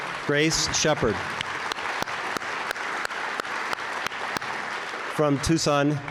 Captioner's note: audience applauds